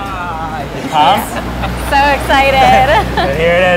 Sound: laughs

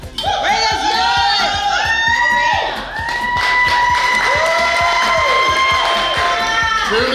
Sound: cheering & Clapping

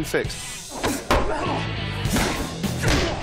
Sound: both grunt

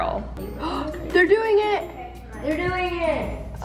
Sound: gasps

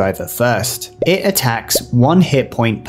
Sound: bubble pops

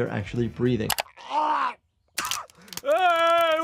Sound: Homer retching, coughing

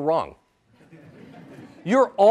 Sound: audience laughs

